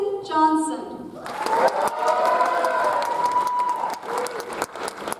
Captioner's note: audience applauds